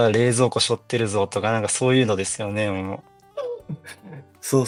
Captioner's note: laughs